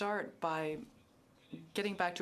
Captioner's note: speaking French